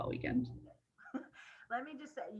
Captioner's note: chuckles